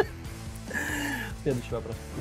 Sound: laughing

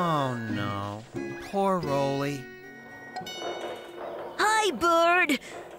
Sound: none

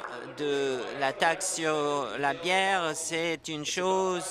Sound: applause

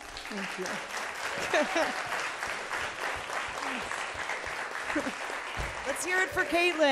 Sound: audience applauding; chuckles

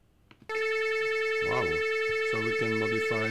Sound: computer beeping sounds

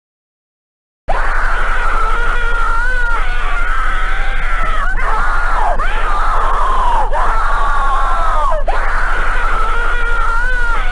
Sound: screaming

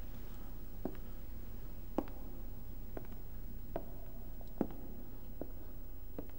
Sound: slow footsteps away

